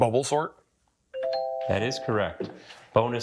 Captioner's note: bell dings